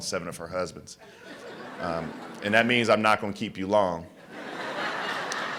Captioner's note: laughter